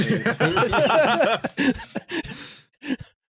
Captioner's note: laughter